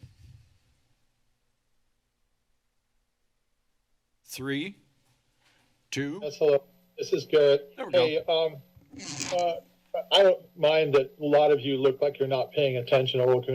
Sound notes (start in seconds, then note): 0.1 silence; 8.8 mic noise